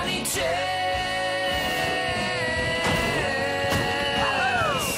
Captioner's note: fireworks whistle and explode